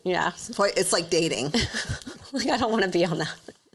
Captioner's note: chuckles